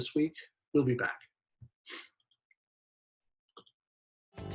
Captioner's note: sniffles